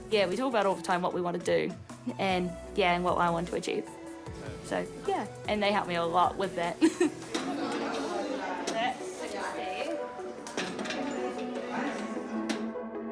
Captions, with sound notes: Yeah, we talk about it all the time — what we want to do and, yeah, and what I want to achieve. So, yeah, and they help me a lot with that. (CHUCKLES) That's 60. (GENTLE ELECTRONIC MUSIC)